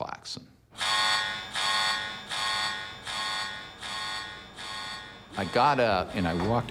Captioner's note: alarm beeping